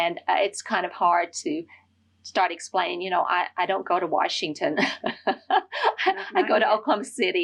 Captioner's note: laughter